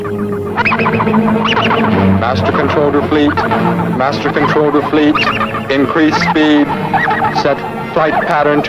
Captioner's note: machines beeping